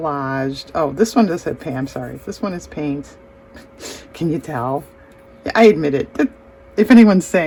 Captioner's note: laughs